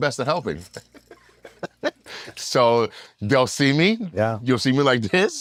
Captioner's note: laugh